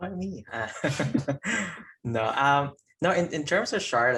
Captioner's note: chuckling